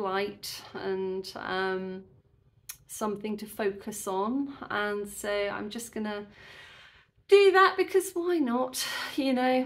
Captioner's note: sigh